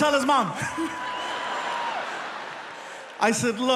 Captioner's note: audience laughing